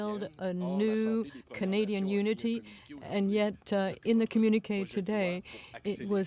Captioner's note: speaking french